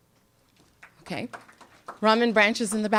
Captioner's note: applause